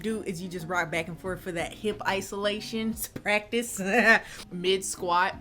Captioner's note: laughs